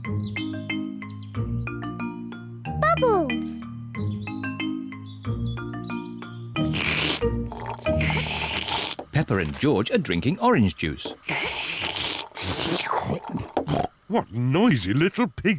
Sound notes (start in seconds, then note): 6.3 both slurping; 10.8 both slurping